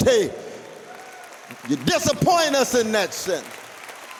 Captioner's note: applause